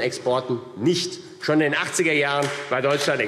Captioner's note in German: Beifall AfD